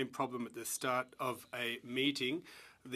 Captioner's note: speaking French